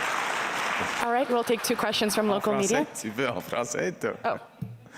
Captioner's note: applause